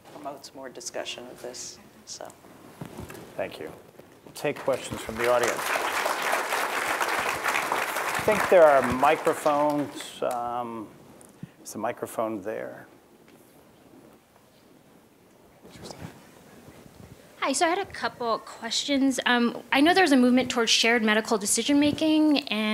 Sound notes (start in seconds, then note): 8.5 applause